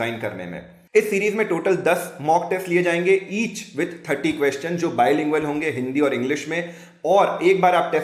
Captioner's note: hindi & English